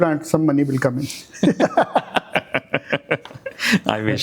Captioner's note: laugh